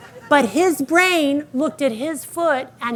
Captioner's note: audience laughing